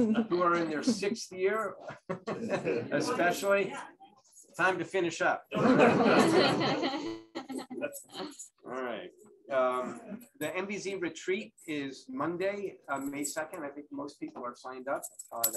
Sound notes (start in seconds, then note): 5.5 laughter